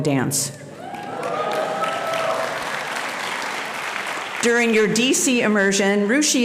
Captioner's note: audience applauding and cheering